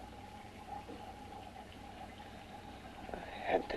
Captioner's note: liquids bubbling